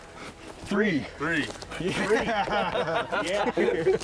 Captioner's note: laughs